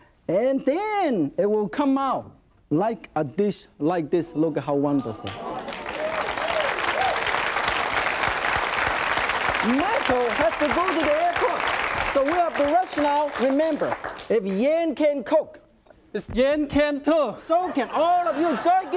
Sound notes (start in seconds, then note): 5.2 audience applauding